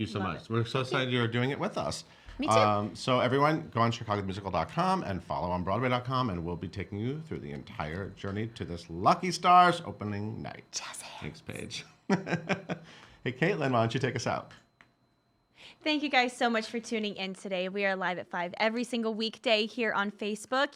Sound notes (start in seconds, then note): 12.4 laughing